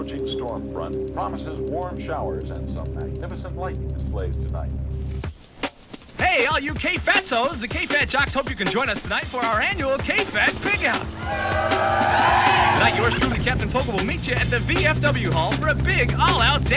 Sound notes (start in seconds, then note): 5.4 upbeat music; 7.3 voiceover; 10.3 crowd cheering